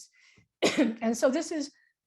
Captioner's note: coughing